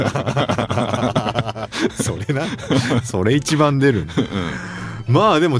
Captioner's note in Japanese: 笑い